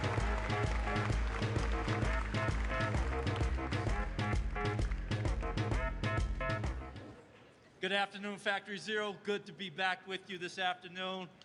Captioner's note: applause